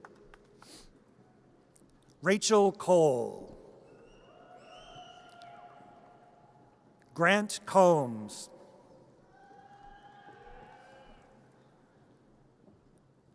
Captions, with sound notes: (audience applause) Rachel Cole. (audience cheers) Grant Combs. (audience cheers)